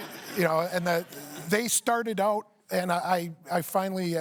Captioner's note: laughter